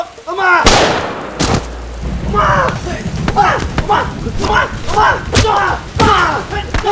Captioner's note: gun blasting; body thudding